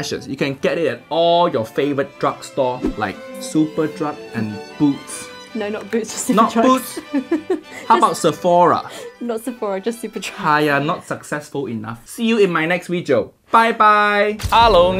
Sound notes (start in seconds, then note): 6.2 laughs